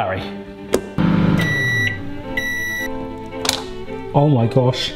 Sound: beeping

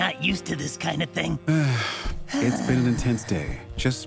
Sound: Ozzie sighs

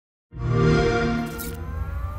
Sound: xbox sound

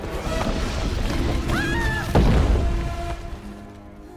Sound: screams

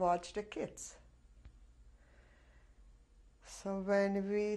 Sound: pauses for 3 seconds

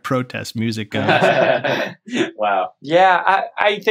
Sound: laughter

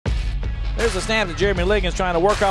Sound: voiceover

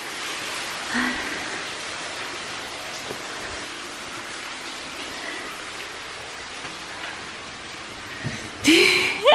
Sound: water running; laughing

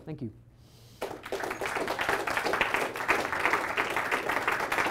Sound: applause

